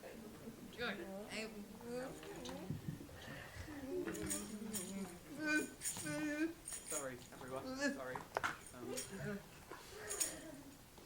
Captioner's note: storyteller mumbles to himself